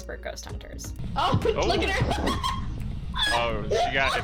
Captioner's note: laughs